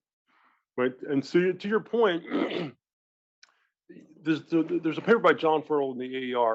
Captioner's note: cough